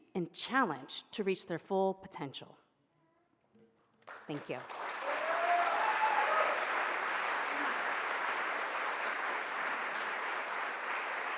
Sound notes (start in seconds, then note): 5.7 audience applauds